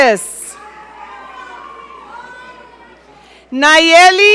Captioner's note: audience cheering